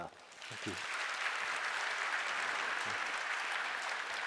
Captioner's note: applause